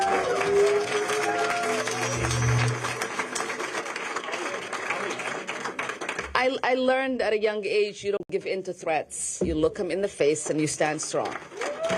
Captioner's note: applause